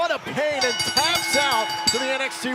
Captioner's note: bell ringing